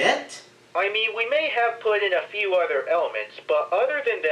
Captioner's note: from phone